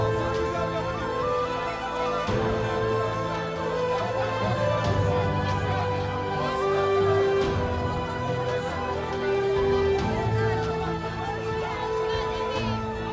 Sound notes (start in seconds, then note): 0.0 Kalabalık bağrışma sesleri; 0.8 Müzik - Vurmalılar ve ney; 6.5 Kalabalık bağrışma sesleri